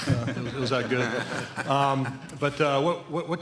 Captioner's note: laughter